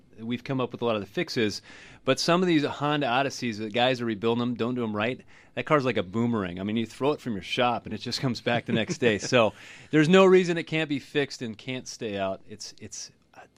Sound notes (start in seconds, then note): 8.5 laughs